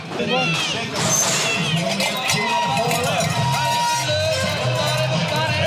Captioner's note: crowd cheers